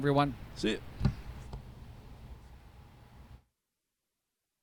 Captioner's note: table clanks